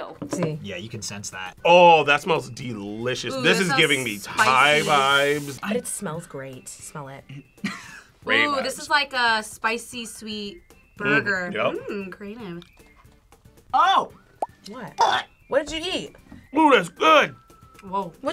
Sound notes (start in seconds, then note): 7.7 laughs; 14.0 gags